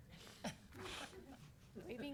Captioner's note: all chuckle